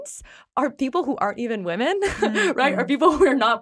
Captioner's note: chuckles